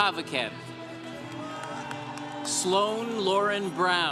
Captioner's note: congregation cheering